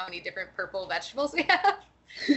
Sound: laughing

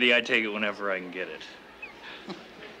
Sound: Nancy chuckles

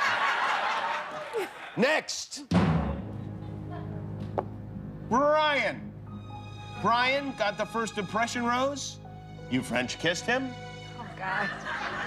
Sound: applause; laughter

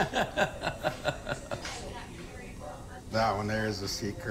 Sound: laughs

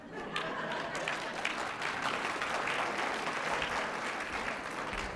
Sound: students clapping

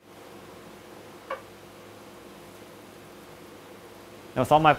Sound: machine softly buzzing

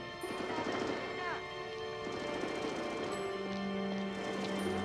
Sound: distant machine gun fire

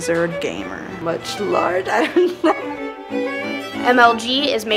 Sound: laughs

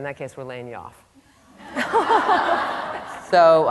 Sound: laughter

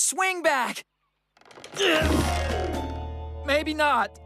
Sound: wood Creaks; grunting

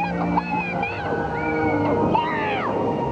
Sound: screaming

